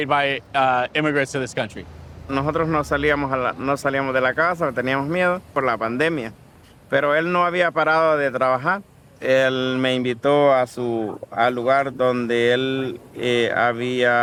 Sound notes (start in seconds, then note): 2.3 speaking in foreign language